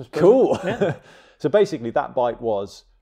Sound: chuckles

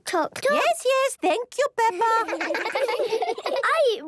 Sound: children laughing

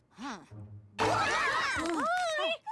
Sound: all shouting

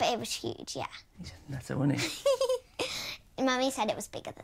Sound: lyla laughing

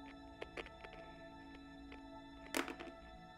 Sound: dead Static

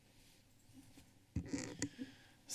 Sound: microphone squeeking

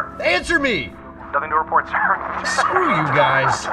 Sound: laughing

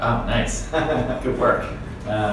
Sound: laughing

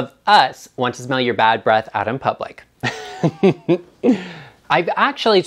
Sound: laughs

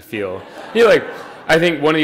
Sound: audience laughing

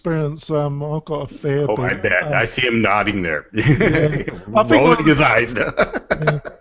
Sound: laughs

